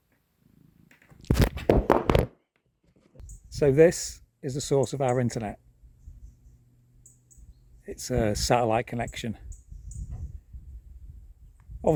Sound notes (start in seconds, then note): 1.1 phone clatters onto ground